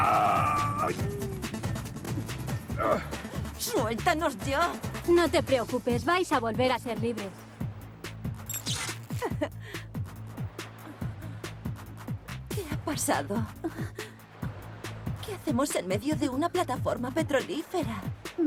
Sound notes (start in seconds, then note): 13.8 gasps